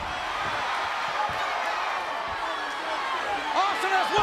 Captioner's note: audience cheers